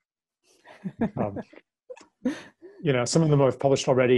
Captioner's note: lacht